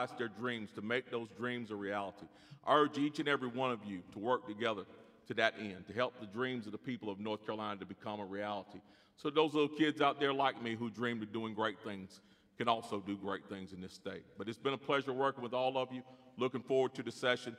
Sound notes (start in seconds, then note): none